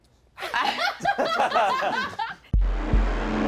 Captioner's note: laughing; dramatic music